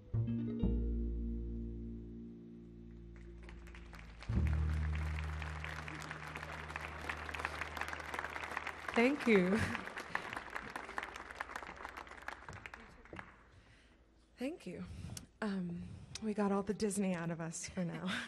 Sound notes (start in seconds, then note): 3.2 audience clapping; 18.0 laughs